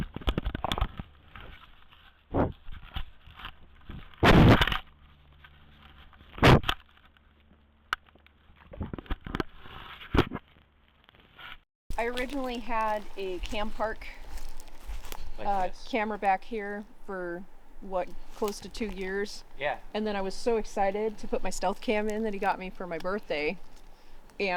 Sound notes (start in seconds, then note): 0.1 camera rattling; 4.7 camera thuds; 6.7 camera rustling